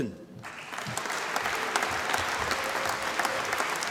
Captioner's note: applause